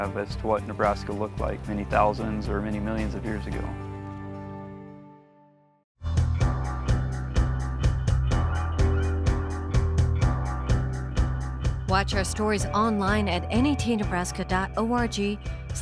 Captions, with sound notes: the clearer picture we have as to what Nebraska looked like many thousands or many millions of years ago. (upbeat music) [Voiceover] Watch our Stories online at